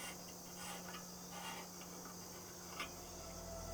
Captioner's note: pipe Being Treaded